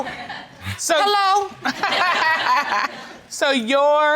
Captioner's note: laughing